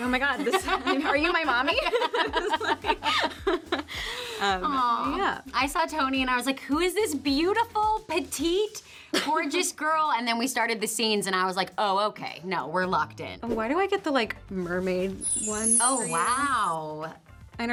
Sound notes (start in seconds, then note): 2.4 both laugh